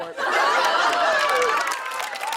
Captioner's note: laughter; cheers and applause